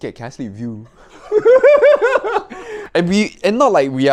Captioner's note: laugh